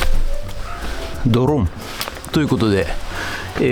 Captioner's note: poof